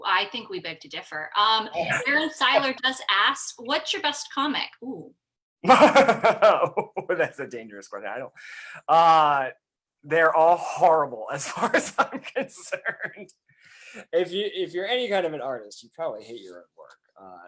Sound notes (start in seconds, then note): 5.6 laughs; 11.5 chuckles